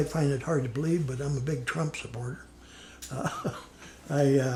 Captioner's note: laughs